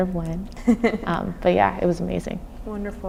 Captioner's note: laughing